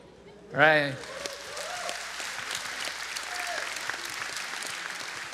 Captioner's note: applause